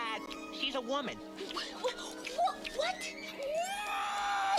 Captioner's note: angry mouse noises